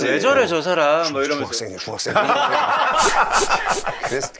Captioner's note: murmuring